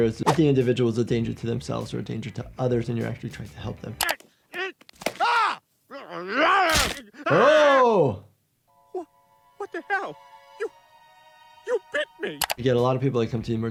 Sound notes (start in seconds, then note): 4.2 Brian screaming; 4.2 Peter grunting; 6.1 Brian growling